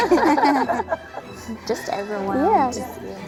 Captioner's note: laughter